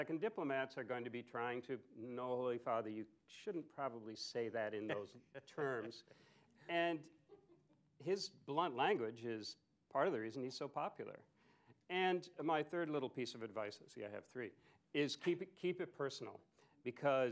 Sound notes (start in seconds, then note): 5.3 laughter